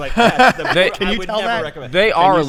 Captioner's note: laughs